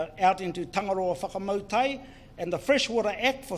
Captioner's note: speaks in foreign language